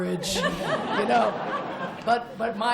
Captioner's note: laughter